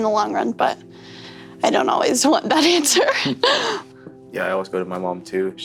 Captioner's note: chuckles